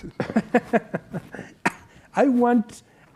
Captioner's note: laughs